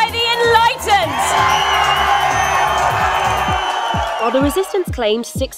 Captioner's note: cheering